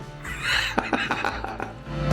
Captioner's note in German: lachen